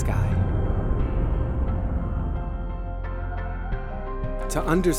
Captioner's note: ghostly whooshing; light music continues